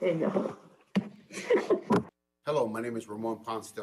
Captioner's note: laughs